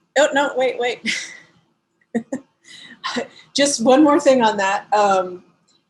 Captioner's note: laugh